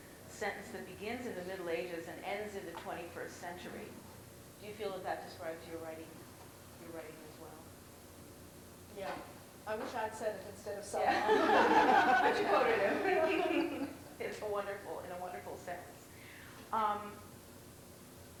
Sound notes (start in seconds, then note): 11.0 laughter